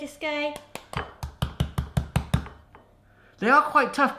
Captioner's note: slapping on fruit